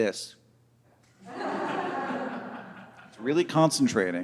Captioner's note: audience laughing